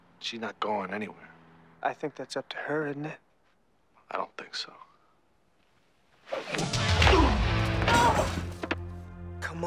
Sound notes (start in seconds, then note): 6.5 fist smacks; 6.5 dramatic music; 7.7 fist smacks